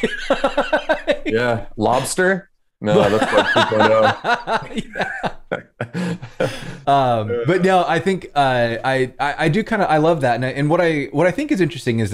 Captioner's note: laughter